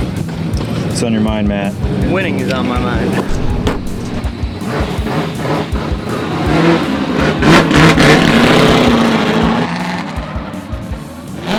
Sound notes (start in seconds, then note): 7.5 engine revving